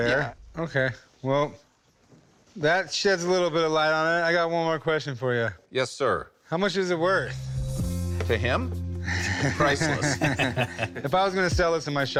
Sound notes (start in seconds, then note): 9.2 laughter